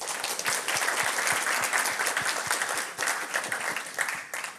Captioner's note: applause